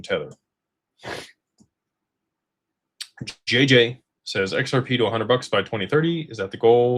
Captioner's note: snorts